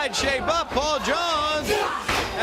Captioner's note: crowd cheering